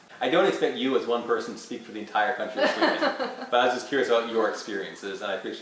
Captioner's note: laughs!